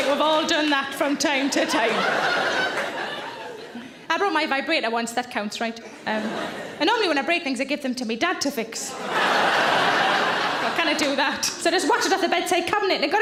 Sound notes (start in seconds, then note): 1.0 audience laughs; 8.9 audience laughs